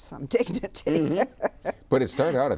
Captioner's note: laughs